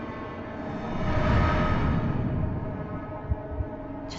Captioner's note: warped whirring